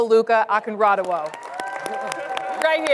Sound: audience clapping

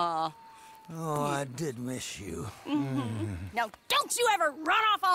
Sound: grunts

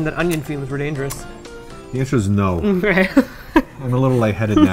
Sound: laughs

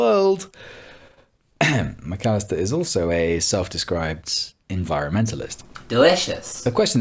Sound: ahem

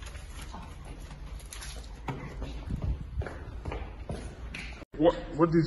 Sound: loud walking

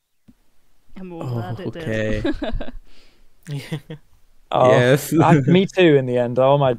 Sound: laughs

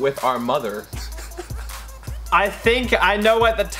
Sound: laughs

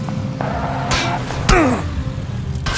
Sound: gunfire, character grunts; gunfire continues

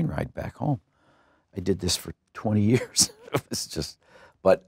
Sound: laughs

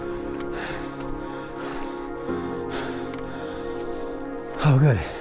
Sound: breathing heavily

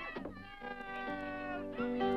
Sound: toys shouting

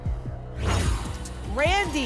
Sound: whoosh

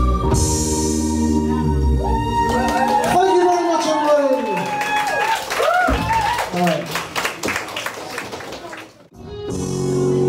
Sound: audience cheers

